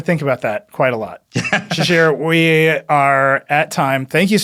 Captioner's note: laughs